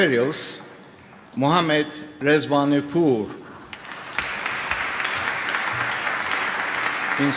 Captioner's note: applause